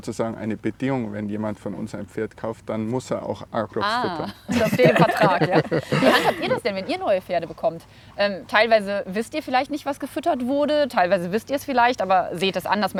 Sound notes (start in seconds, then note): 3.8 laughing